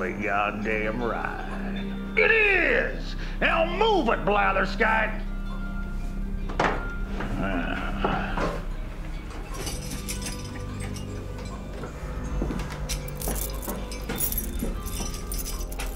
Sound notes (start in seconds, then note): 9.4 keys jingling